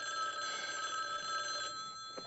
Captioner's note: Telefon çalıyor